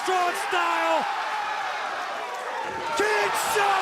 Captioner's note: crowd cheering